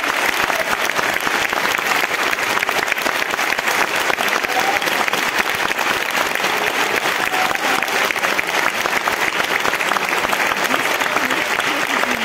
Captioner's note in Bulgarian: аплодисменти